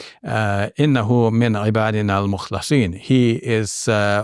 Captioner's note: speaks Arabic